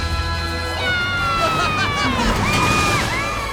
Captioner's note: cheering, laughing